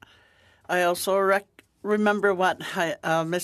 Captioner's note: speaking Alternate Language